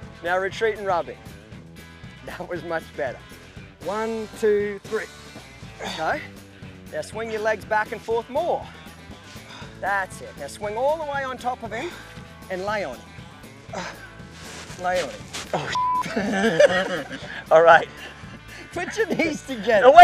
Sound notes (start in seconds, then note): 13.7 grunting; 16.0 laughing